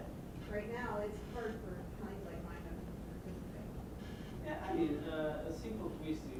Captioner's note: murmuring